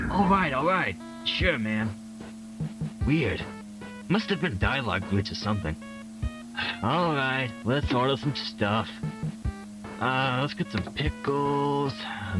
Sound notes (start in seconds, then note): 6.6 sigh